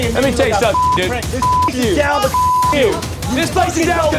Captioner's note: yelling